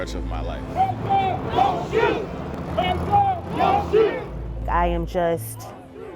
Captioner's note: protesters chanting